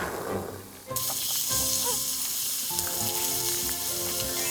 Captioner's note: sizzle